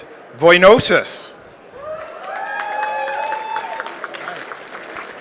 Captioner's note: applause